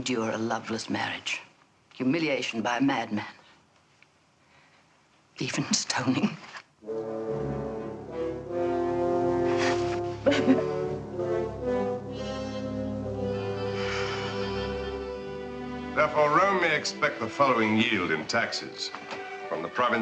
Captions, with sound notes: I will endure a loveless marriage, humiliation by a madman, even stoning. (dramatic music) (Salome sobs) - Therefore Rome may expect the following yield in taxes.